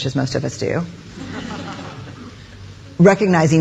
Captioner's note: audience laughing